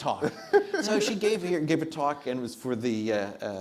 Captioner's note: audience laughs